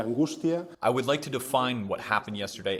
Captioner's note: through translator